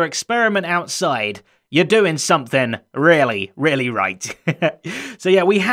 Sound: chuckles

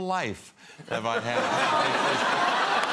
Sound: audience laughing

